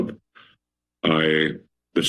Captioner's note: pause